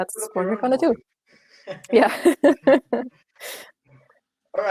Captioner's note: laughter